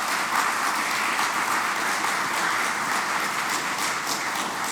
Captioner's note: applause